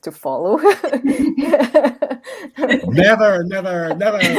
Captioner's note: laughs